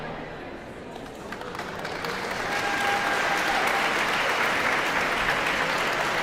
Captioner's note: audience applauding and cheering